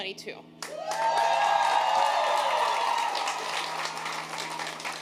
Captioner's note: audience cheering